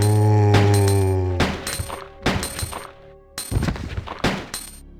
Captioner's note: gunshots